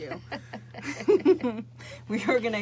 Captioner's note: women laughing